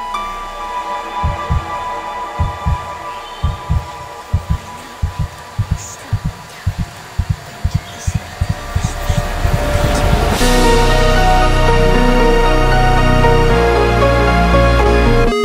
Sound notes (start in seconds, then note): 1.2 heart beating; 10.4 cinematic music